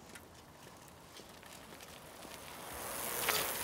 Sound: bike approaches

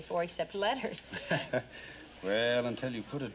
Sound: chuckles

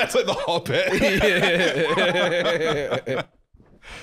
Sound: both laughing

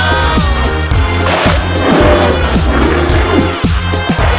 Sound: King Kong Sound; water Sound

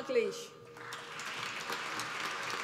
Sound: applause

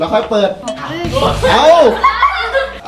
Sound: laughs

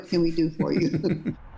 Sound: laughter

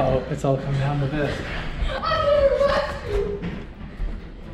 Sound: yelling

